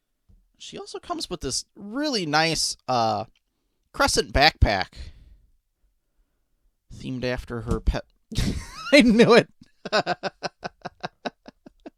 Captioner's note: laughing